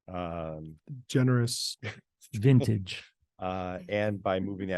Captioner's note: laughs